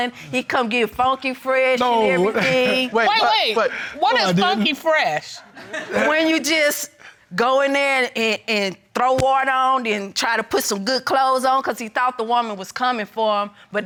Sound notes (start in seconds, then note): 2.0 laughing